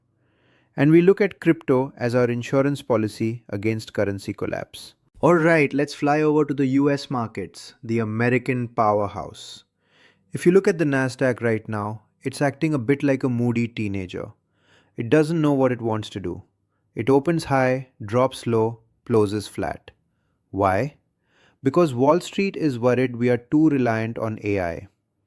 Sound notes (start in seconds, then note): 5.1 excited; 10.8 sarcastic